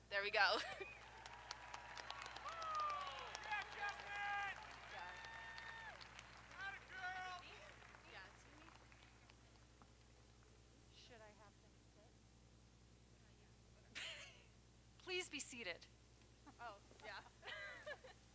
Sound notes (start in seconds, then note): 1.4 audience applauding; 1.4 audience cheering